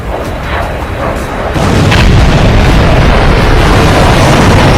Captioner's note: jet engine roaring